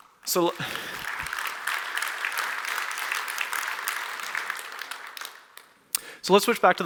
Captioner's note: applause